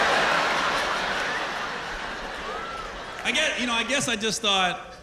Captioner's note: laughter